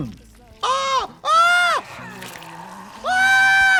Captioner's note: Trixie yelping; screaming